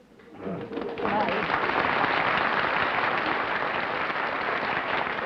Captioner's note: applause